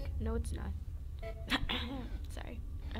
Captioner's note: coughs